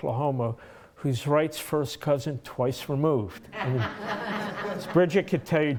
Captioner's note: laughter